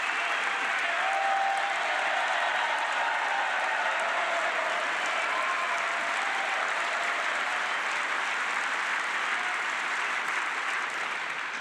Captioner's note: cheers and applause